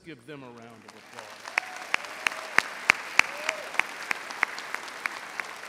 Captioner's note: audience applauding